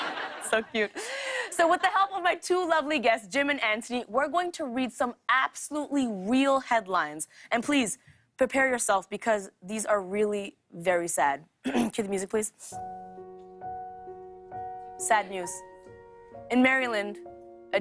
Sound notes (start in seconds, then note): 11.6 clears throat